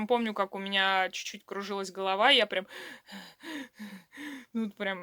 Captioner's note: breathing heavily